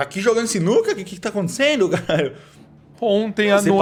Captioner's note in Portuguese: risos